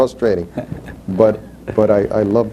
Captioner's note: laughs